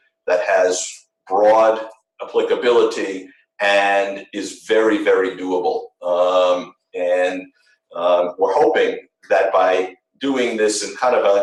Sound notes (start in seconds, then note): none